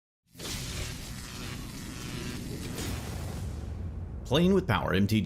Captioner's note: electricity buzzing